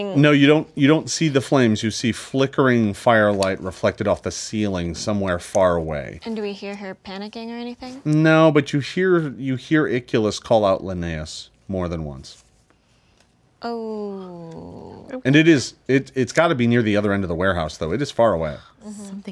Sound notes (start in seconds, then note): none